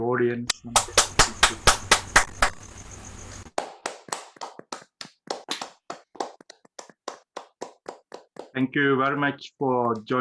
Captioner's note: applause